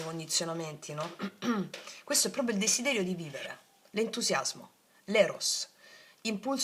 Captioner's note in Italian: schiarire la voce